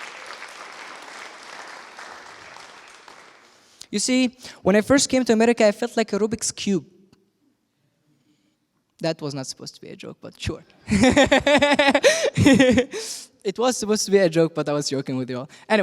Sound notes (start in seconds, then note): 10.9 laughs